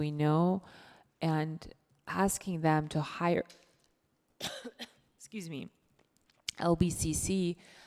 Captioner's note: coughs